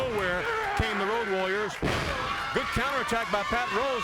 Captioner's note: body thudding